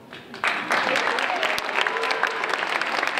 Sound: applause

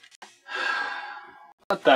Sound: sighs

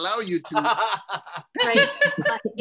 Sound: laughter

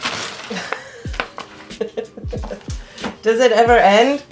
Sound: laughing

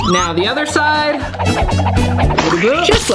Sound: smack sound effect; fast movement sound effect

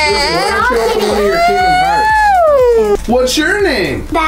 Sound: dad talking in background

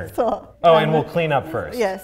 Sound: laughs and speaks in foreign language

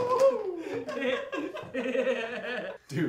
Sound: Gary cheers; both laugh

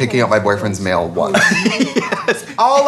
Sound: laughing

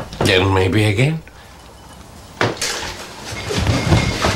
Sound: glass clanking

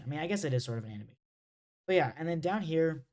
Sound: audio cuts out

